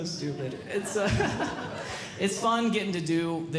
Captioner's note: audience Laughing